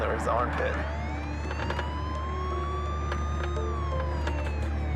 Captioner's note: siren